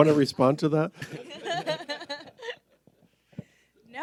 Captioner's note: all laugh